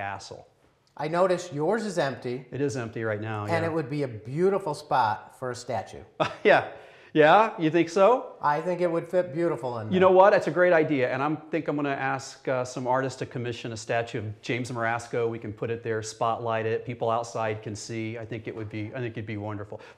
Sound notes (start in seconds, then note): 6.2 laughs